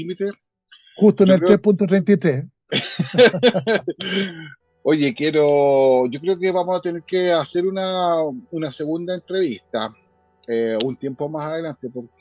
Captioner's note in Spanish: Risas